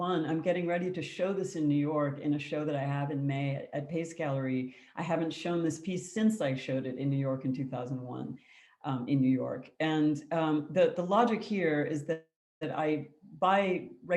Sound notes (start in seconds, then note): none